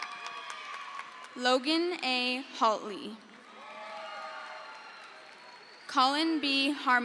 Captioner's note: crowd cheers; crowd cheers